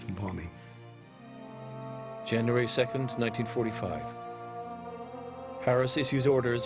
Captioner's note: voiceover